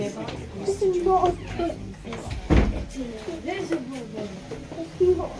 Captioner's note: voices of children talking